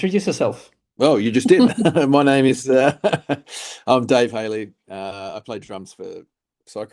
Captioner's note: chuckles